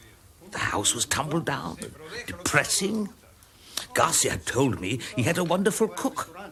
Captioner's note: speaking Spanish